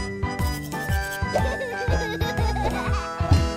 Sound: laughs

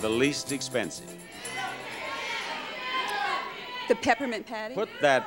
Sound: audience exclaiming

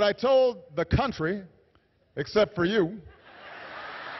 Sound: laughter

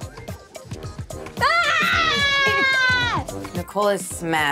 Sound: screaming

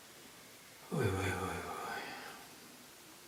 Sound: sighs

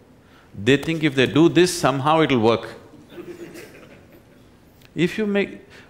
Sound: laughter

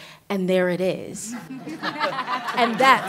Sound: laughter

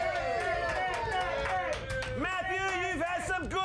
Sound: audience cheering

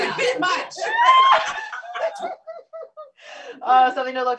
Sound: laughter

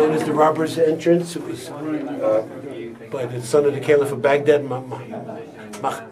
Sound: speaks foreign language

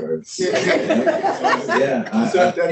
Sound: laughs

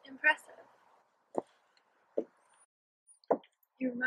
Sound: high heels walking on wooden stairs

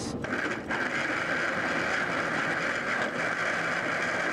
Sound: whirring

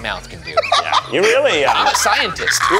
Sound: laughs

